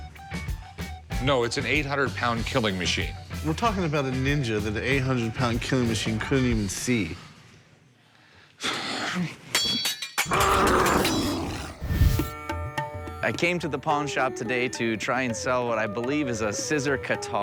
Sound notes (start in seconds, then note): 9.5 clang; 10.2 growl